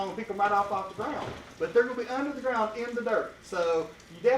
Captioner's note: none